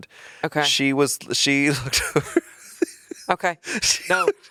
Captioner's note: chuckling